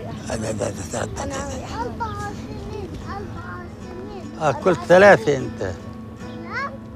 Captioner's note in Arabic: الأحفاد و يتحدثون باللغة الأجنبية